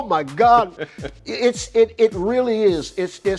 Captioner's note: laughing amusingly